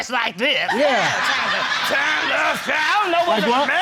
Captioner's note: deep voice